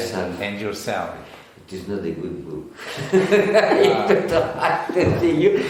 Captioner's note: laughs